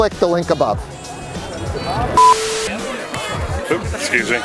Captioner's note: crowd noises